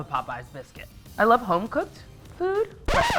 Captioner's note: disc stops